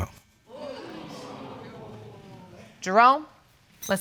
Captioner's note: audience exclaims